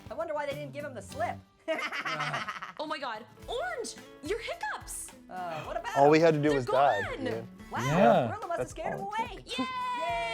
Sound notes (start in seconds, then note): 1.7 Annoying Orange laughs